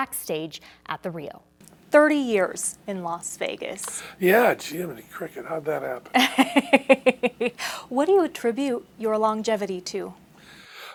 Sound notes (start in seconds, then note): 6.1 laughter